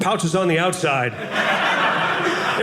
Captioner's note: audience laughing